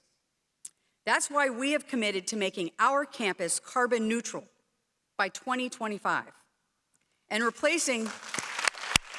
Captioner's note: applause